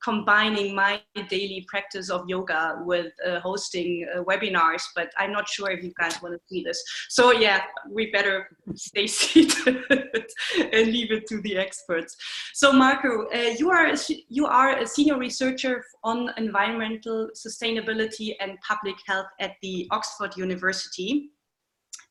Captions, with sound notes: combining my daily practice of yoga with hosting Webinars, but i'm not sure if you guys want to see this. So yeah, we better stay seated (laughs) and leave it to the experts. So Marco you are a senior researcher on Environmental-Sustainability and public health at the Oxford University